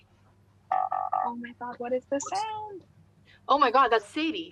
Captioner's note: computer error sound